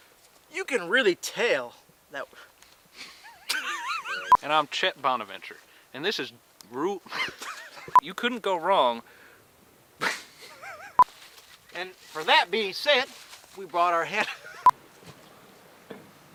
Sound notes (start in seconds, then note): 3.0 both laughing; 4.2 frame beeping; 7.1 both laughing; 7.9 frame beeping; 10.0 frame beeping; 10.0 laughs; 14.0 frame beeping